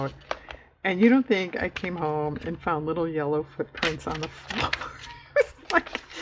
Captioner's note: laughs